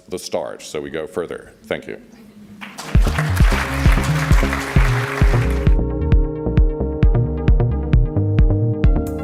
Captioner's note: applauds